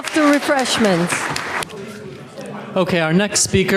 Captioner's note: audience applauds